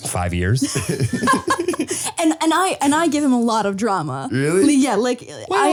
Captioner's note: laughing